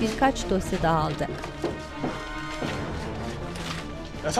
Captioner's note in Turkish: Kâğıt hışırtısı sesleri